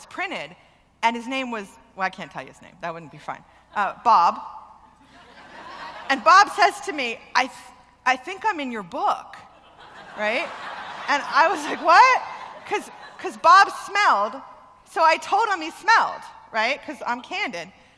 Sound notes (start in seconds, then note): 4.9 laughter; 9.6 loud laughter